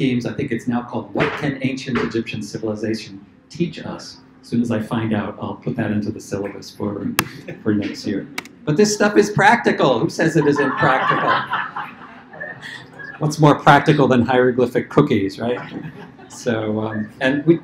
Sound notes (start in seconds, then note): 10.3 laughter